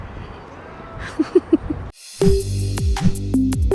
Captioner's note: chuckles; relaxed music